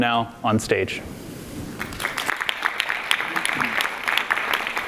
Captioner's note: audience applauds